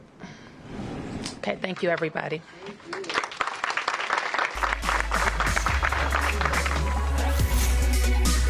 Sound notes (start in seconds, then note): 2.6 applause